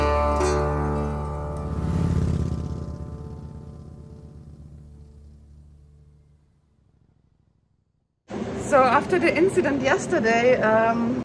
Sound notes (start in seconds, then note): 1.9 motorbike roaring